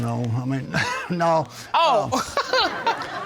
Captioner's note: laughs